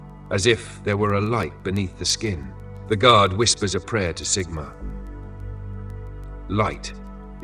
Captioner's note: Pause. The guard whispers a prayer to Sigmar